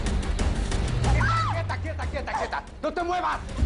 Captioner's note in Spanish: Exclamaciones